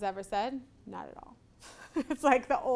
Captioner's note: laughs